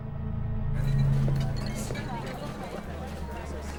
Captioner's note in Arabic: ثرثرة في الخلفية